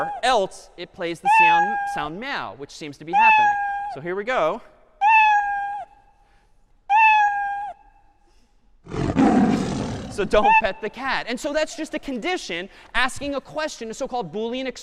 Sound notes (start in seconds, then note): 5.0 cat meowing; 8.8 cat roaring